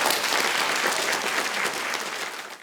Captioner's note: audience applauds